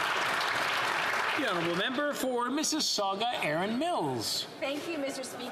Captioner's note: applause